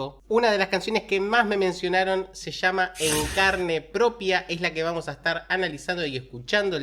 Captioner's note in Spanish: resoplido